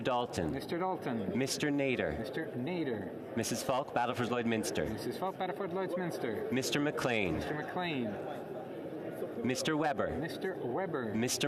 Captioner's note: calling of recorded vote